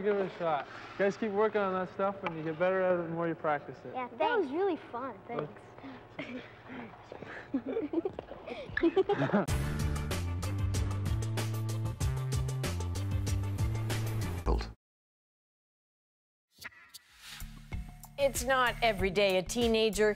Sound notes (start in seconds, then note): 8.4 laughter